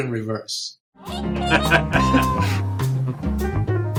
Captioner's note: Steve chuckles; playful music